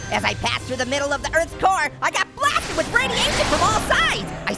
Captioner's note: none